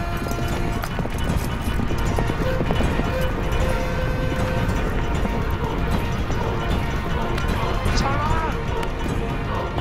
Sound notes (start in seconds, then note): 0.3 dramatic orchestral music; 2.0 horses galloping